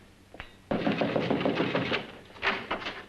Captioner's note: knocking on door; door opens